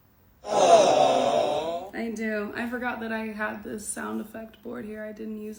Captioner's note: audience aww sound effect